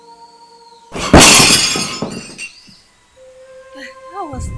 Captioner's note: dishes clatter